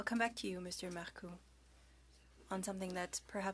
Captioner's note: speaking French